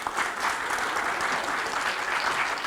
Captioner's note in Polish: oklaski